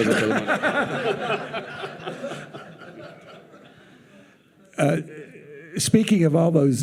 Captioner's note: participants and audience laughing